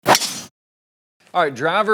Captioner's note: swinging whoosh